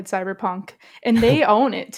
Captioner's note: laughs